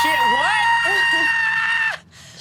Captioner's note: screaming